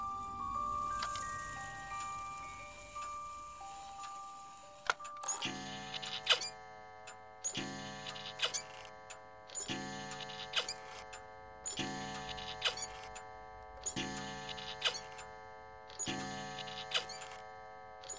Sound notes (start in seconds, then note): 4.8 clock chimes